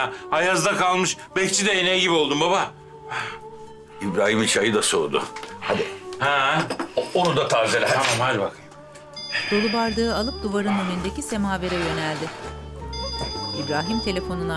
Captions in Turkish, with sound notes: Ayazda kalmış bekçi ineği gibi oldum baba. İbrahim'in çayı da soğudu. Hadi. -Ha... -Onu da tazeleyeyim, hadi bakayım. (Telefon zili sesi)